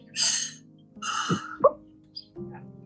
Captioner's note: crying